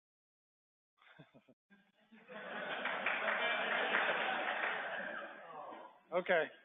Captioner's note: laughter